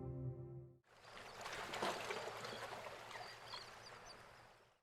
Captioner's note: water splashing; birds chirping